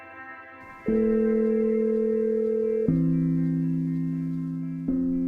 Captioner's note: phone ringing